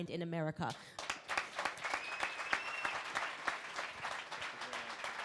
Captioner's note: crowd applauding